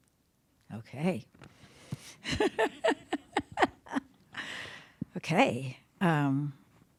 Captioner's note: laughing